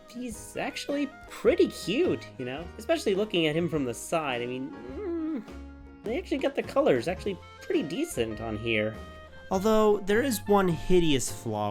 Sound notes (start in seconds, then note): 4.8 cuteness Noise